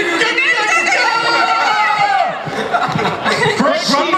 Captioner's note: audience and panelists laughing